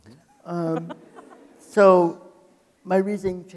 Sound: people laughing

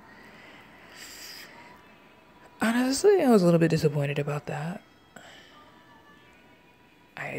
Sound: inhales

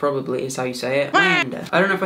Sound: waa sound effect

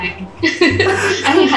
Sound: laughs

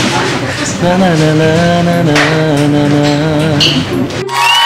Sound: humming the melody

